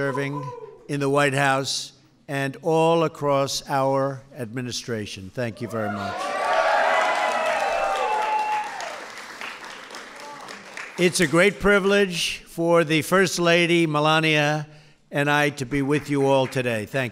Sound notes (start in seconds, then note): 6.7 applause